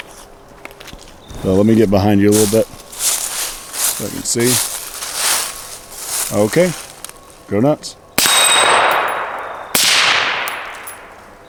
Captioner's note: suppressed gunshots